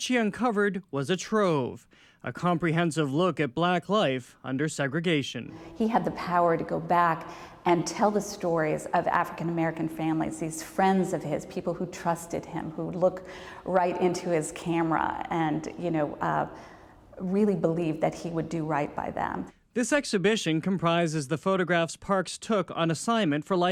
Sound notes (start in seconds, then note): none